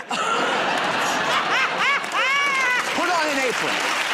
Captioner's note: laughter and applause